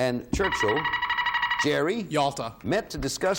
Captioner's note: buzzer beeping